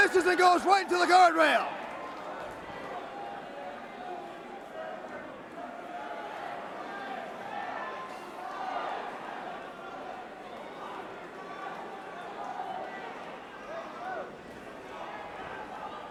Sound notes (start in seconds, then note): 0.0 crowd cheering; 2.7 crowd chatter; 5.5 crowd cheering